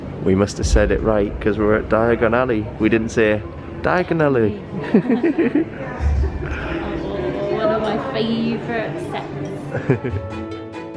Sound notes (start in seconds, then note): 4.8 laughing